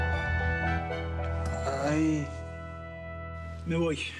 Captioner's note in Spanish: quejidos